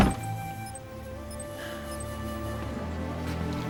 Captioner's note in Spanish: Mega suspira